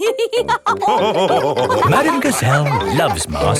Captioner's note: all laughing